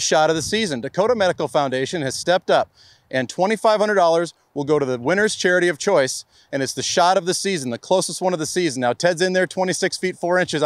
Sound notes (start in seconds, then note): none